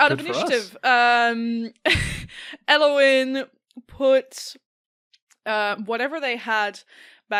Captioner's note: chuckles